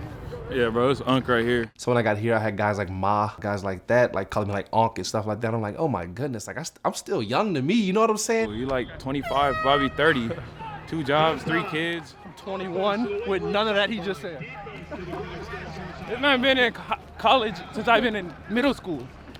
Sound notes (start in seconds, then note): 10.0 player laughing; 13.1 both laughing